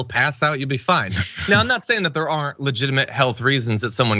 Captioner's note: laugh